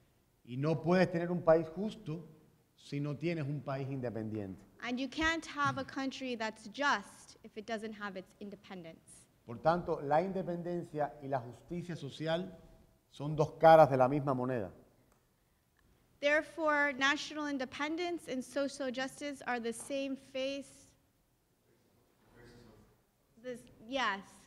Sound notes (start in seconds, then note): 0.0 speaking in Spanish; 8.8 speaking in Spanish